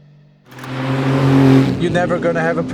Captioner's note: engine revs